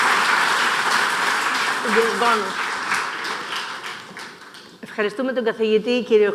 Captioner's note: applause